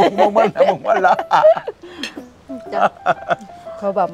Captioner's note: both laughing